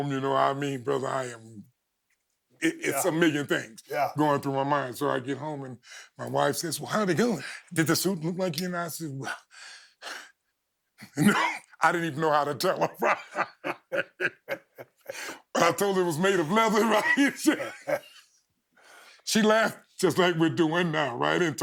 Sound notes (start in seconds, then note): 12.6 both laughing